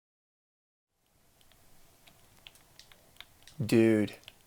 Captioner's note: game controller buttons clicking